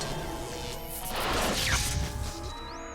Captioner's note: static noise